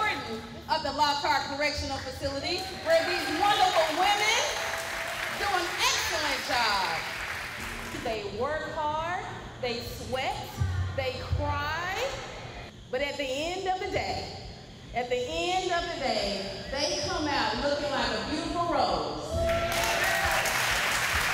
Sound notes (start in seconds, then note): 7.2 inmates applaud